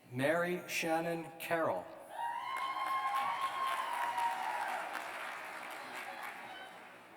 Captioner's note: cheers